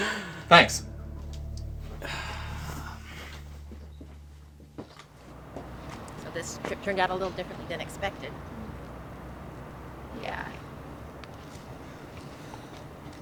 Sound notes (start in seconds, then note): 1.3 sighing